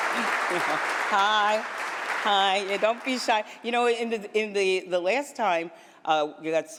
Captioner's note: applause